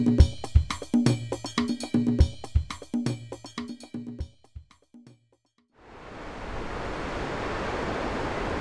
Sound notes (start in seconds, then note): 5.8 water rushing